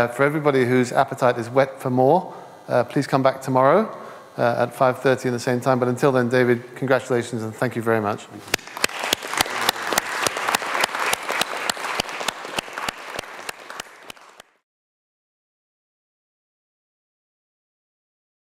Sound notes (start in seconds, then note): 8.5 applause